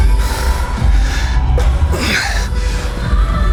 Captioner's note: breathing heavily